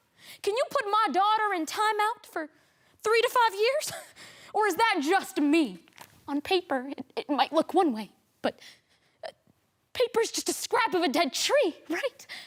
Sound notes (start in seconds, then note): 8.9 quick breaths